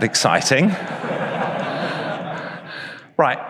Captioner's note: audience laughs